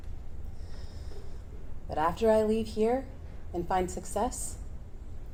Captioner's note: inhales